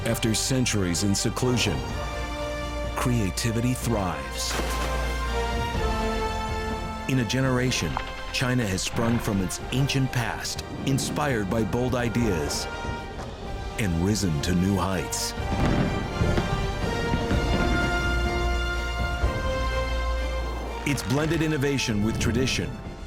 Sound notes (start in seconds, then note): 15.0 fireworks exploding